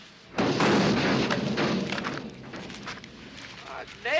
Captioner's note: machine thuds